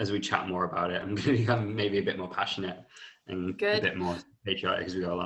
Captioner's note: laughter